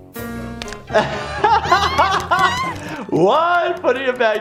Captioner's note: laughing